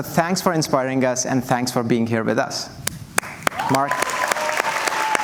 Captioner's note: cheers and Applause